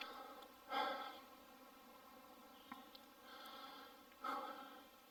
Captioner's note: heavy breathing